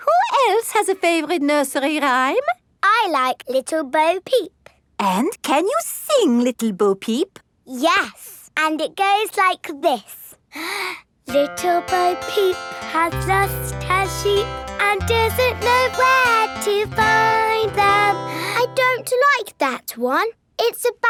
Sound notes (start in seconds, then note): 10.6 inhales